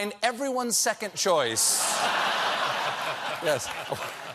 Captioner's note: laughter